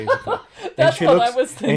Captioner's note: laughs